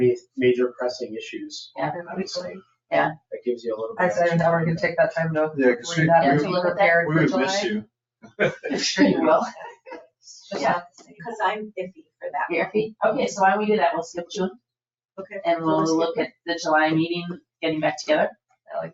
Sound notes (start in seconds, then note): 3.1 people chattering; 5.6 people chattering; 8.1 people chattering; 8.4 people laughing; 10.3 people chattering